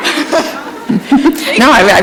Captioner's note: chuckle